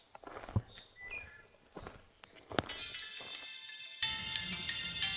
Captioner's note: birds chirping